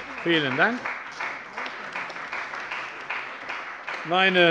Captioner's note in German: Beifall bei der CDU und dem BÜNDNIS 90/DIE GRÜNEN